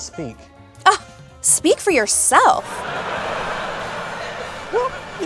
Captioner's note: scoffs